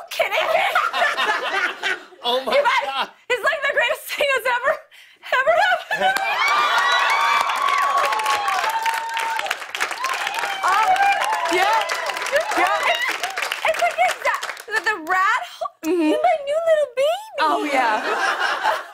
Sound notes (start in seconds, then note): 0.3 laughter; 5.9 cheers and applause